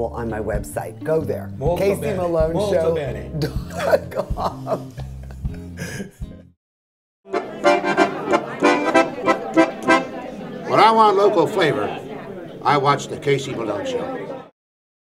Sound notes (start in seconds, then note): 3.4 laughs; 7.3 cheerful music